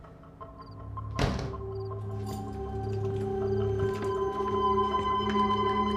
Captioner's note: doors clicking; door shuts; keys jingling